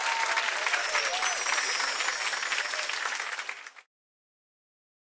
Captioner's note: chimes resonant